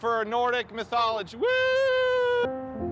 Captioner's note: cheers; upbeat music